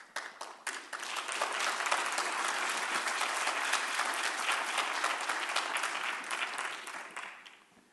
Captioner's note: applause